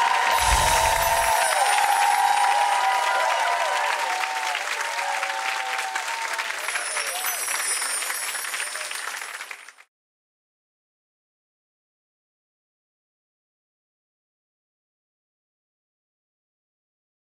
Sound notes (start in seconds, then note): 0.2 audience applauds; 6.5 chime